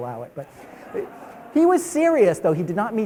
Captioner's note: audience laughs